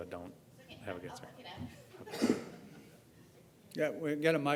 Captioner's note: laugh